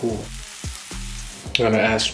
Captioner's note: sizzling